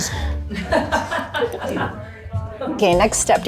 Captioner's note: laughs